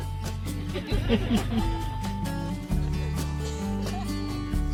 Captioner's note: all laughing